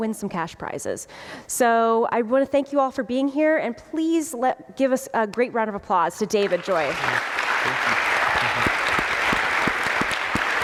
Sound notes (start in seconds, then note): 6.4 applause